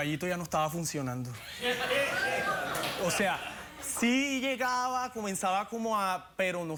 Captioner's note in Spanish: risas de la audiencia